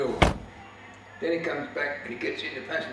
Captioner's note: car door slams